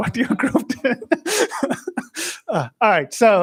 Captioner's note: laughs